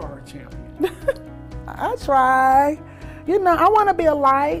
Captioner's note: laughs